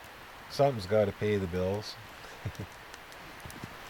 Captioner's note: laughter